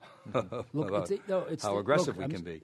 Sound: laughter

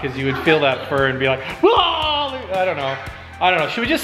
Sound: yelling

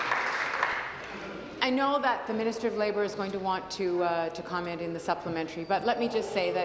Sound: applause

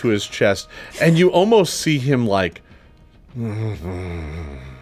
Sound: grunts

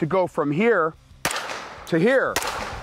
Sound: gun shot

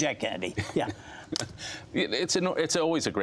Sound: laughter

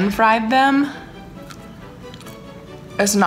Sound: crunching

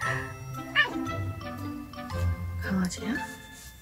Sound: making a doggo noise this time LOL

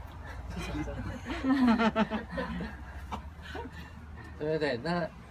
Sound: group laughing

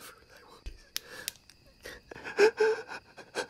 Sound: flashlight clicking; Chad sobbing

